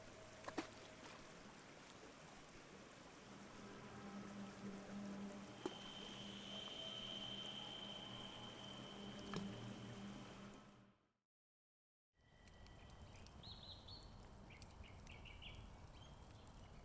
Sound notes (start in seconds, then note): 3.1 ominous music; 12.9 birds chirping; 13.7 fire crackling